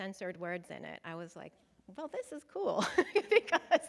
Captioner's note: chuckles